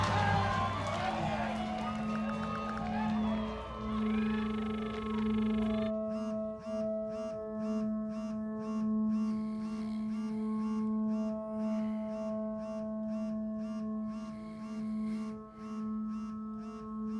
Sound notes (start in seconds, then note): 0.1 uneasy music; 3.7 line rings; 6.0 cell phone buzzes repeatedly; 9.3 soft snoring